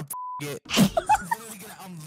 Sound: laughing

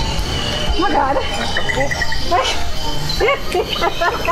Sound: nervous laughter

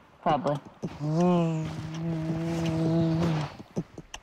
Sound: imitating lightsaber

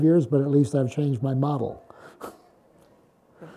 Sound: laughs

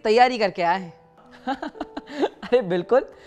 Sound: chuckles

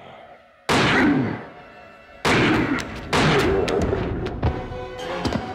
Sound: werewolf growls; gun firing; werewolf grunting; dramatic music

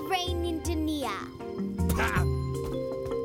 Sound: scoffs

